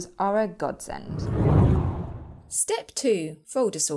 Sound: air swooshing

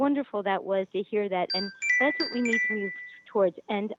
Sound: chime

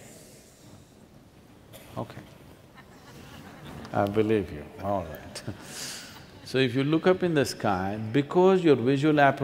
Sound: few laugh

